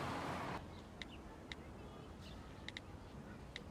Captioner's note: phone typing